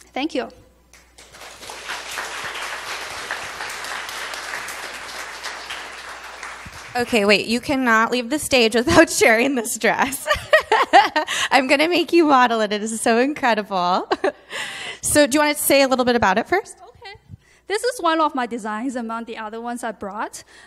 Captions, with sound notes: Thank you. (audience applauding) - Okay, wait. You cannot leave the stage without sharing this dress. (laughs) I'm gonna make you model it. It is so incredible. So, do you wanna say a little bit about it first? - Okay. This is one of my designs, among the other ones I brought.